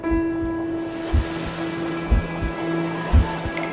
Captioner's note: gentle piano playing; train whooshing; dreamy music